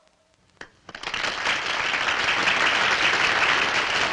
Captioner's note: applauding